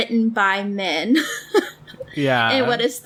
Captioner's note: laughs